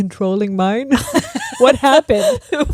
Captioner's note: both laughing